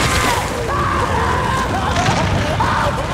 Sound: screaming; crying; screaming

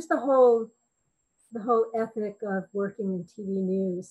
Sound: none

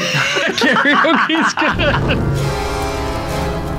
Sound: laughing

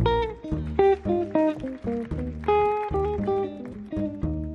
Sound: audience clapping

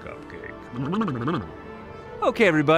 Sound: silly noise

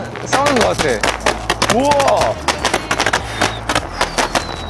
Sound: fireworks

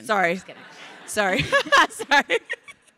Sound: crowd laughing; laughs

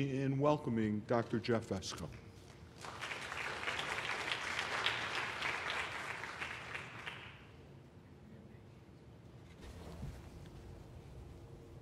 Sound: applause

